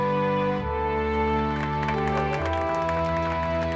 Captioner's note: applause